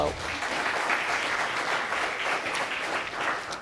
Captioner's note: audience applauding